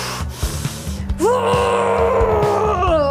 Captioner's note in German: Schmerzhaftes Stöhnen